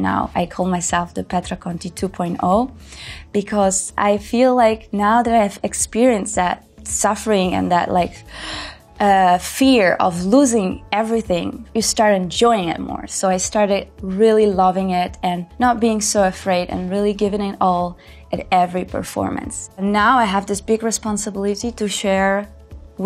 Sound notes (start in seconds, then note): 8.3 speaker gasps